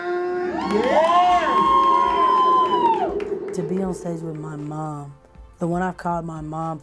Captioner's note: cheering